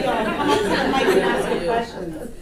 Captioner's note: audience laughter